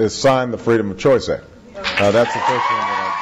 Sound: cheers

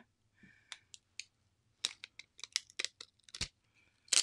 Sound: paper cracking

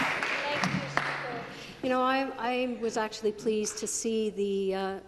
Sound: applause

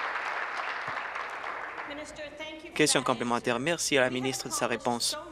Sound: applause

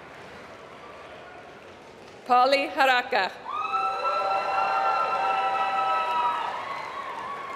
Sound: applause

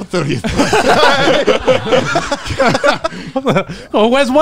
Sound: all laughing

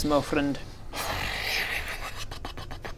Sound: indecisive horse noises

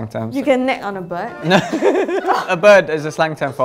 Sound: laughs

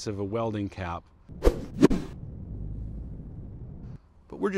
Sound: cap swooshes

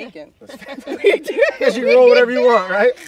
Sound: everyone laughing

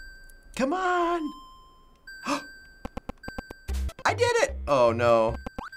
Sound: gasps

